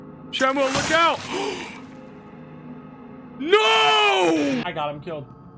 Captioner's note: Skull gasps